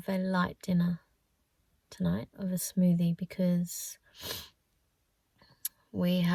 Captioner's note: sniffs